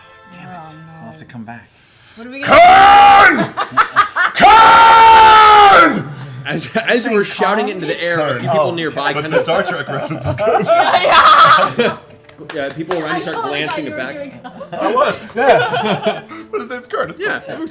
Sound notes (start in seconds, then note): 3.7 shouting